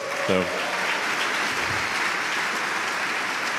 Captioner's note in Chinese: Applause; 掌声; Applause; 掌声